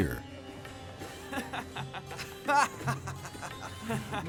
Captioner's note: laughs